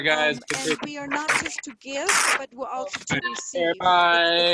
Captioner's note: people chatting